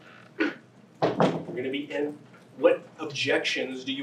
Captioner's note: object thudding